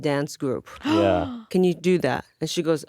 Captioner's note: gasps